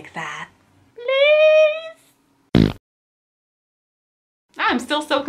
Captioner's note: fart noise